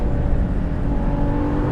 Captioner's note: engine roar